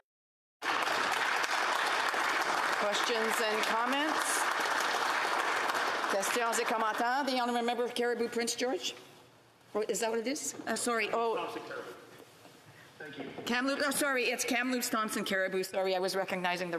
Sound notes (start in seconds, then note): 2.6 applause